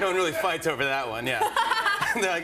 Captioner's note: both laugh